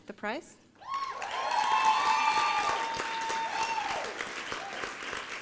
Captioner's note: applause and cheering